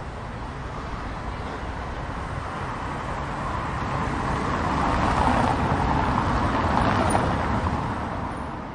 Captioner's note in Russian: звуки машины